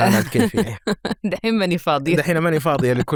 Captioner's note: she laughs